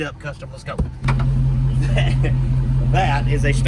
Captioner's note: engine roaring